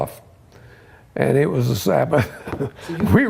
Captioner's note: laughs